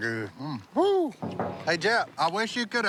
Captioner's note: knocking